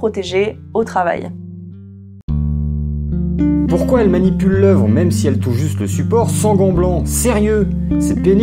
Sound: annoyed voiceover

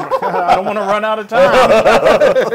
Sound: laugh

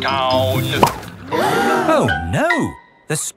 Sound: all gasp

